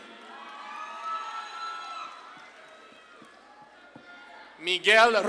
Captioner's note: audience claps and cheers